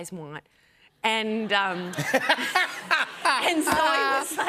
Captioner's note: laughter